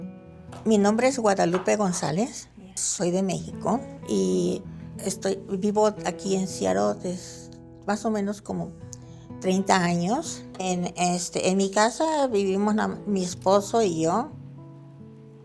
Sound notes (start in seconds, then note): 0.7 speaking in Spanish; 10.9 continues in Spanish